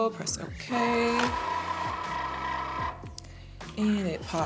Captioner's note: Cricut whirring